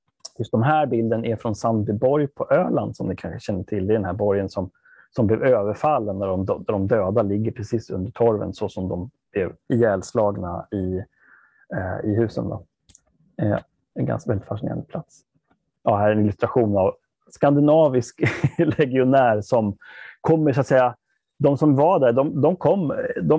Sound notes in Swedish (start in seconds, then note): 18.2 skrattar